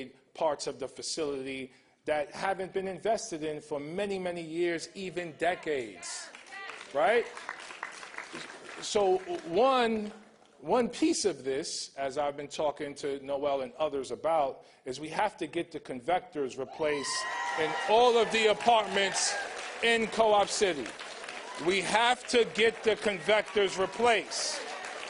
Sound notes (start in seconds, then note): 16.4 applause